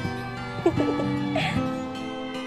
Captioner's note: giggles